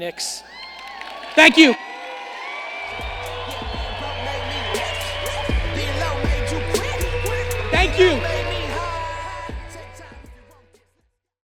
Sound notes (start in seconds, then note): 2.7 audience cheering; 5.0 upbeat music